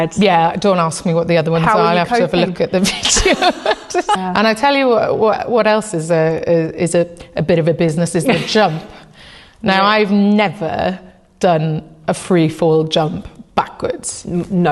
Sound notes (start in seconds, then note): 2.8 chwerthin; 2.8 laughs